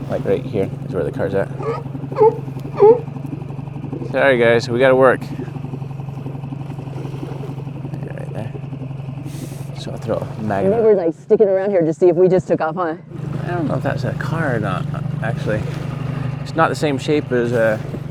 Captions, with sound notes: Like right here is where the car's at. (sea lion barks) Sorry guys, we gotta work. Right there. So I'll throw a magnet. - Maybe they're like sticking around here to see if we just took off, huh? - I don't know if that's a car or not. Actually it's not the same shape as a,